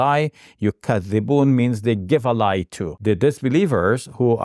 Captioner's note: speaking Arabic